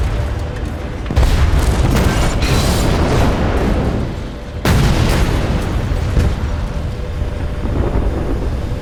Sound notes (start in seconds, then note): 1.0 explosion; 8.5 roaring flames